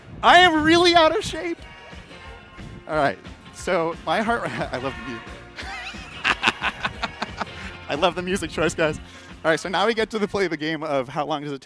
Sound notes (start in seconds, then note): 4.2 laughs